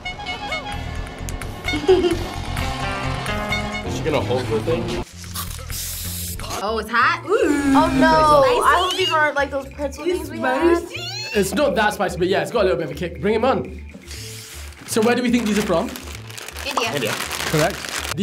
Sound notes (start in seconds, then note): 0.0 playful music; 5.7 steam hisses; 17.7 bag crinkles